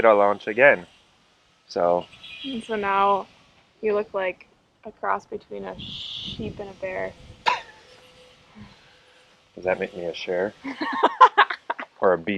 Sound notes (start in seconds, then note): 7.6 laughs; 10.6 laughs